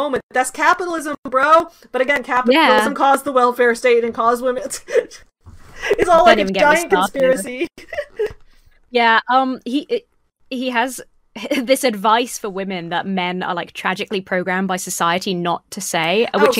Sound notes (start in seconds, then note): 5.7 giggles; 5.8 laughs